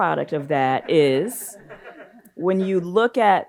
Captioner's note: audience laughs